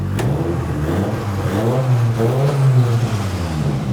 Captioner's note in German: Motor häult auf